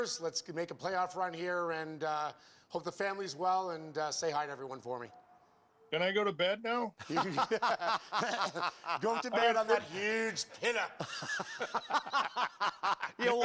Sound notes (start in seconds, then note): 7.0 laughter